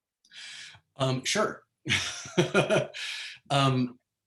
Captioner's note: laughs